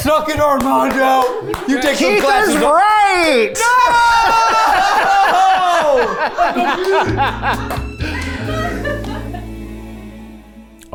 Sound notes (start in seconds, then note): 5.7 all laughing; 6.8 gentle music